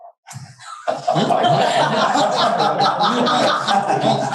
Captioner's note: audience laughing